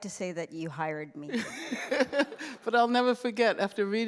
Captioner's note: laughter